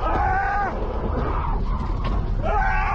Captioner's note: screaming, screaching of tires